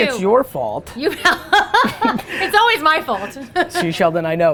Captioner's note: laughs